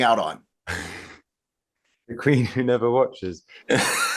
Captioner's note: laughs